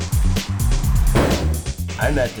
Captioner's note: door slams shut